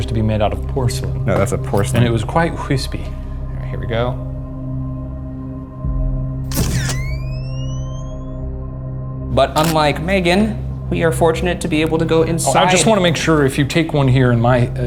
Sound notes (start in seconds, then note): 6.6 camera shutter clicks